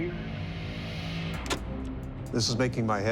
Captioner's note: clicking